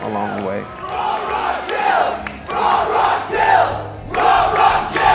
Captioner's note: crowd chanting